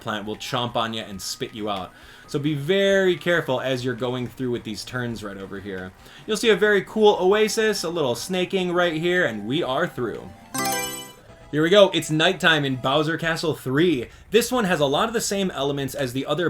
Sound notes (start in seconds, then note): 10.5 Mario Selection Sound